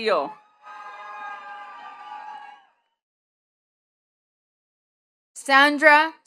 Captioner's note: attendees cheering and clapping